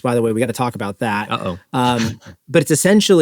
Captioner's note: laughs